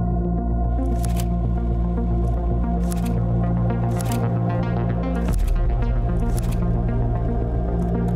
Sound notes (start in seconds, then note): 1.1 slides shuffling